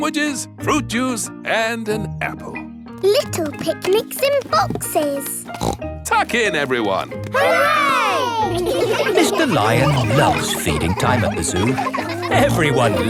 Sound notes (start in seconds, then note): 5.4 snorts